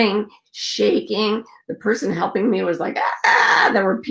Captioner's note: screaming